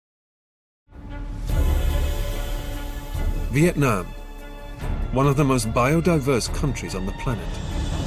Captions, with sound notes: (rich dramatic music) - [Voiceover] Vietnam. One of the most biodiverse countries on the planet.